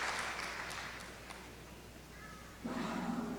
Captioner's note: applause